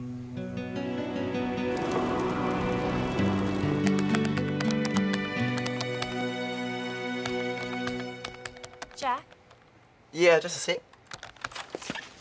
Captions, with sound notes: (tense music) (wind blowing) (fire crackling) (keyboard keys clicking) - Jack? - Yeah, just a sec.